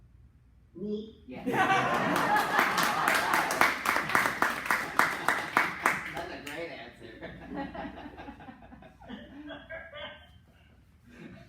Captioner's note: laughter and clapping